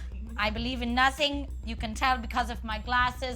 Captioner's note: in a German accent